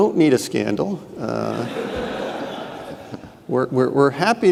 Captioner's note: audience laughing